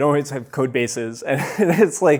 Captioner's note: chuckles